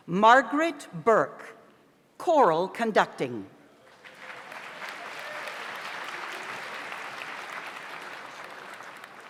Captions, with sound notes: Margaret Burke, Choral Conducting. (audience applauds)